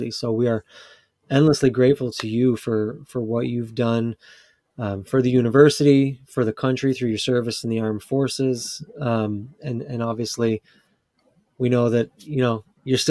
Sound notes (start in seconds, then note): none